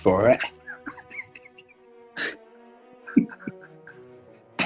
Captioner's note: giggling